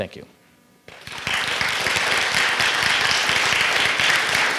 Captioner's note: audience clapping